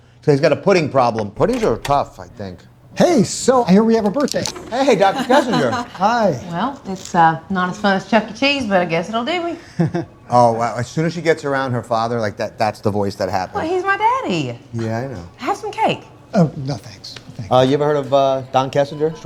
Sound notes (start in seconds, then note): 2.9 knocking on door